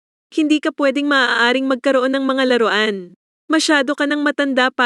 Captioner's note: filipino